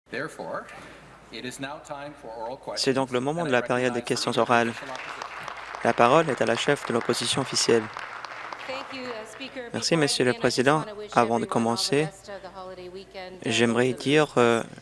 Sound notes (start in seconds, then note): 8.3 applause